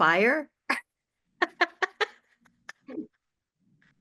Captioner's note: laughter